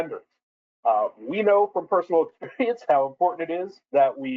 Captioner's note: chuckles